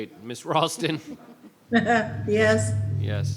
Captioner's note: laughs; woman laughs